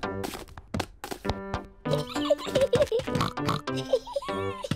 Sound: giggles and oinks

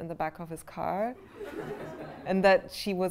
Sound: laughter

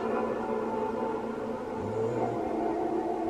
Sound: various deep voice sounds

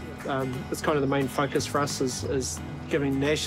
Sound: none

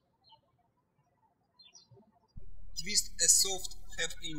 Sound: birds chirping

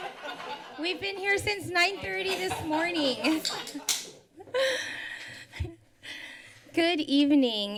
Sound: laughter; laughter

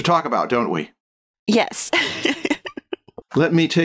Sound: laughter

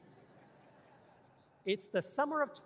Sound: audience laughing

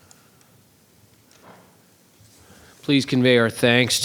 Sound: clicking

